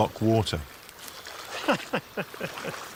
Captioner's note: laugh